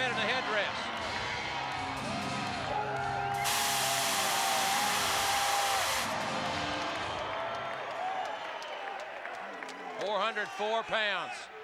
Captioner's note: applause